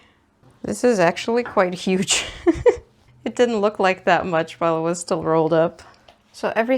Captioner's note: laughs